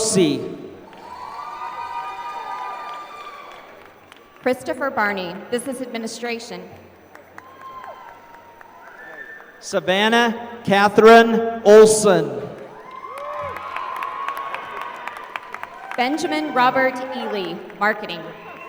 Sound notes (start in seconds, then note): 0.8 applause; 7.0 applause; 12.5 applause